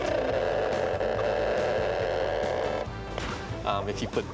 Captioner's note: <i> crackling</i>